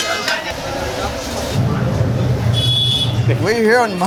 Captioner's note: crowd clamoring; food sizzling; traffic honking